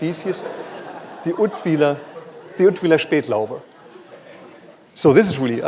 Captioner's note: non-english speech